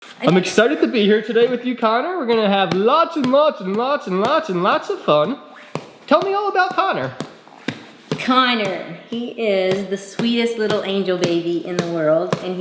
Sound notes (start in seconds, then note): 5.0 thumping; 7.0 thumping foot